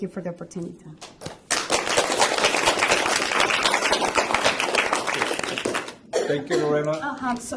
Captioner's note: applause